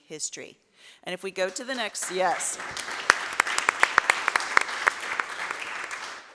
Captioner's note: audience applauds